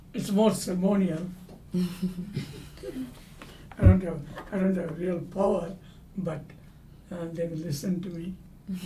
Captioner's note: laugh; laugh